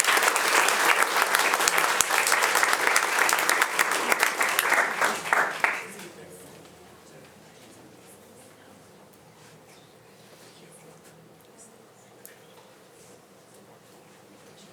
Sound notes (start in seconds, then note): 0.0 audience applauding; 6.5 faintly speaking